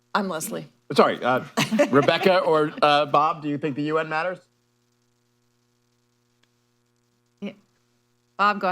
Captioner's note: laughter